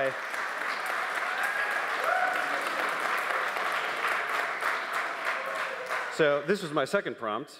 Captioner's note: applause